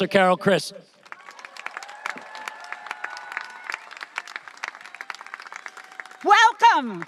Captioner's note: audience applauding and cheering